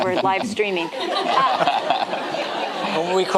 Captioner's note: audience laughing